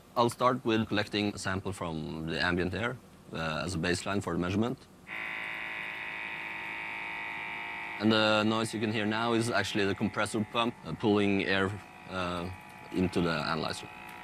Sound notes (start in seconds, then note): 5.4 machine whirring